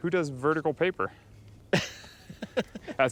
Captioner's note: laughing